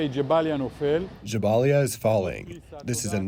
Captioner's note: through translator